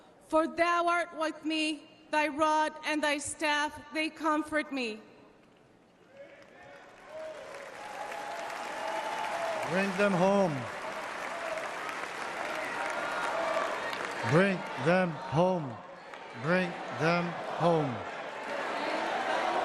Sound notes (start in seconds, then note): 9.6 applause; 10.0 cheering